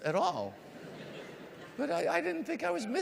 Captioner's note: audience laughs